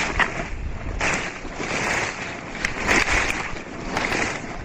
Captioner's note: something stomping through snow